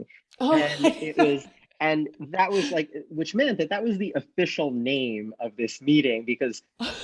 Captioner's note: laughs